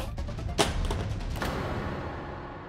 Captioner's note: phone clatters